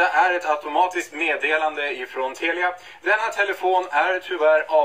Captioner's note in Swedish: Röst från telefon igen